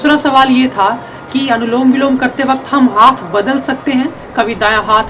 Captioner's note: alternate nostril breathing